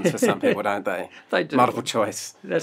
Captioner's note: laughter